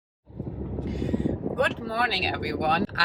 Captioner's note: wind hustling